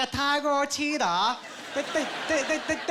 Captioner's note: stammering